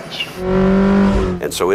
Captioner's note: track Sounds